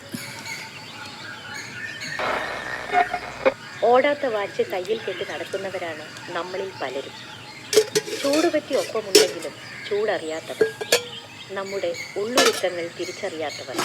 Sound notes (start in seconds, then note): 4.2 speech from the radio